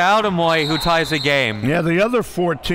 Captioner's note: referee blows whistle